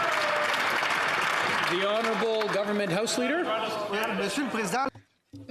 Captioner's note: some Applause